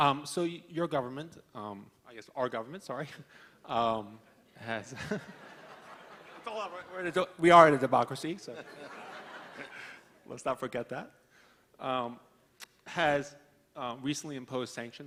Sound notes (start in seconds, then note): 5.0 laughing